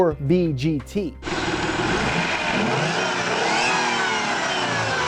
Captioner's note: car engine roaring